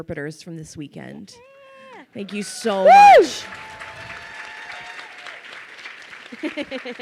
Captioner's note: crowd cheers and applauds